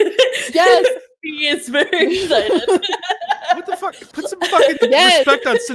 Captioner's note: laughs